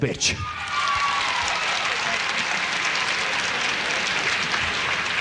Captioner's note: audience cheering and applauding